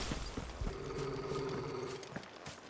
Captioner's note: growl